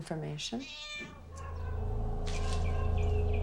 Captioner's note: cat meows; ominous music